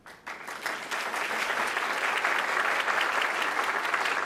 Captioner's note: audience applauding